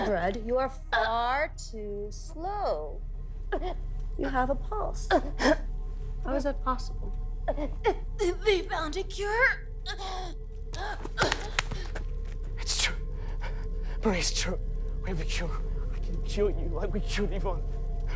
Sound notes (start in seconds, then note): 10.1 gasps; 10.7 tense music continues